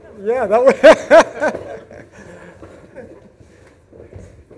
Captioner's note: laughs